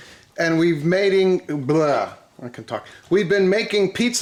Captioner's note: rolls lips